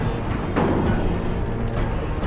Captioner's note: footsteps